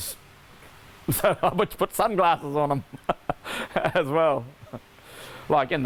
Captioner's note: laughing